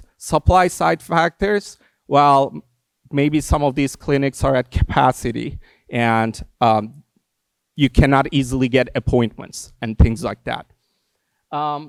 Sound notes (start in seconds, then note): none